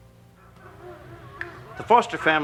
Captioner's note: dogs barking